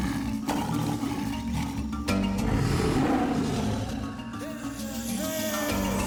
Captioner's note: tiger roaring